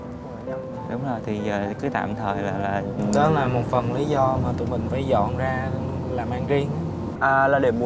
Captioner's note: huu